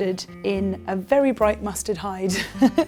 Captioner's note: chuckles